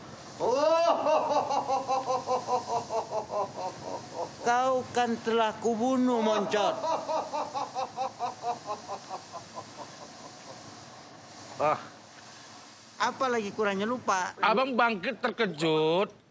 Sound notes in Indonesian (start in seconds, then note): 6.7 Ho ho ha ha ha ha ha ha